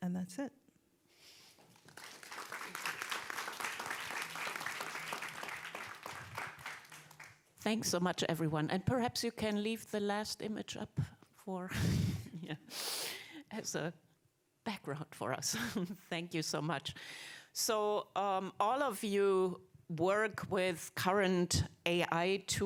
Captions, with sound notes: And that's it. (audience clapping) - Thanks so much, everyone. And perhaps you can leave the last image up for, yeah, as a background for us. Thank you so much. So all of you work with current AI tools